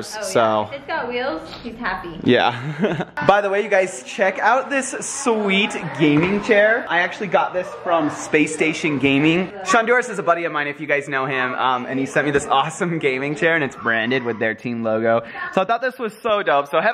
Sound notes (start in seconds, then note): 2.4 laughing